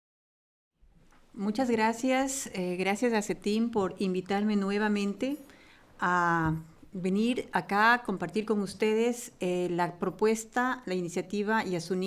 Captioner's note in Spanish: Español